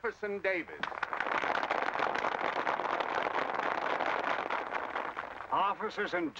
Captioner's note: crowd applause